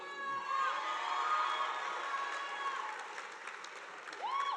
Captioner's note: audience applauding